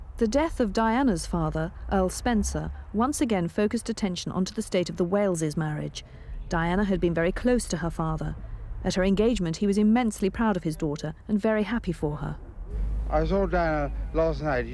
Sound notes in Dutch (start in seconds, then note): none